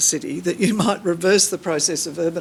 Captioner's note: chuckles